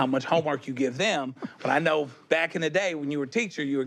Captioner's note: chuckles